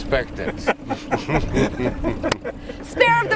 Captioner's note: all laughing